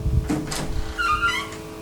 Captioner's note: footsteps